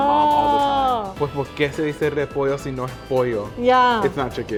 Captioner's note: speaking Spanish